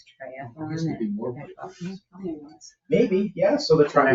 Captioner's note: people speak distantly